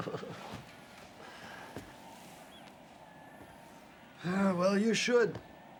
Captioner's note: laughs; gulls caw; waves crash in distance